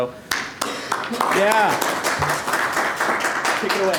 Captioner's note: applause